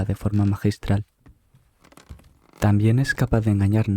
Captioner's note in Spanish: escaleras chirriantes